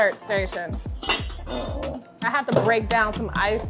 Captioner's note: utensil clattering